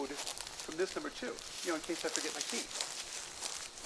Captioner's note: leaves crunching